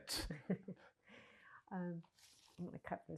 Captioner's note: laughing